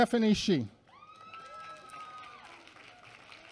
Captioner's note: applause